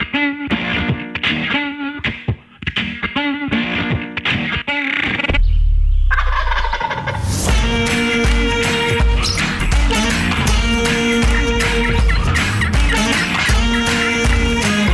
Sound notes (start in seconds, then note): 0.2 country music plays; 6.2 turkey gobbles; 8.1 music intensifies